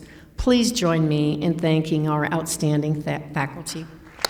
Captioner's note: applause